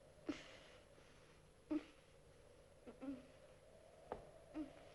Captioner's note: Kathy whimpering